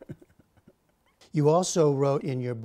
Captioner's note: laughter